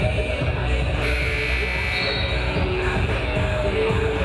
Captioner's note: buzzer buzzing